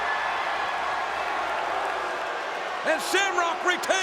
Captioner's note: crowd booing